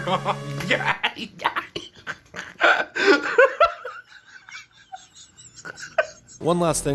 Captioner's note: Six Eye Sun moans as he squeezes frosting onto a cinnamon bun; Six Eye Sun laughs so hard he wheezes